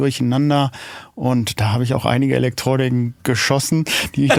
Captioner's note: lacht